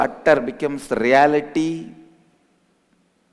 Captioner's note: hindi